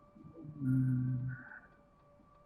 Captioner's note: humming